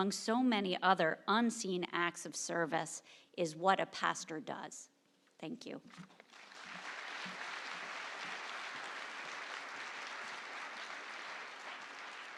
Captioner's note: applause